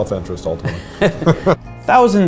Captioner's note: chuckles